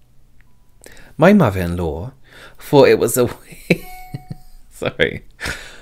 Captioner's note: laughs